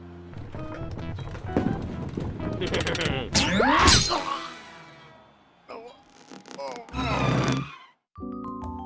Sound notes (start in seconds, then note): 2.6 laughs maniacally; 3.4 screams; 5.6 moans